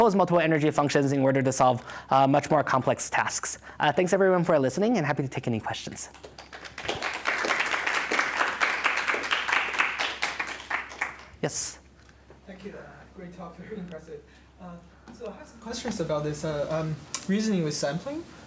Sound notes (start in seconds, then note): 6.1 applause